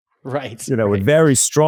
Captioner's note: laughs